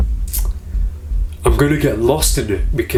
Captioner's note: teeth sucking